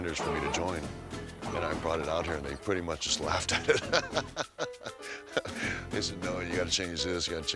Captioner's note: laugh